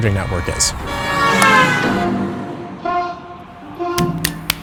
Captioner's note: car hooting